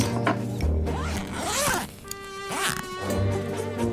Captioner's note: quirky music; unzipping suitcase; quirky music